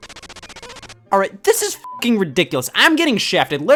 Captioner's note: beep